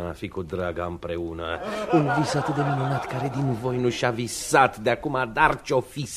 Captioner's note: laughter